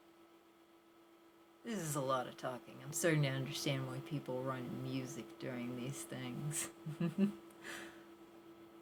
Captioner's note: laugh